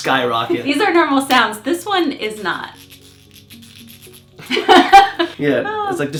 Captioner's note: scratching/crackling sound